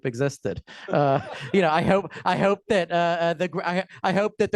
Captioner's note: laughter